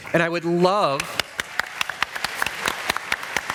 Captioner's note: applause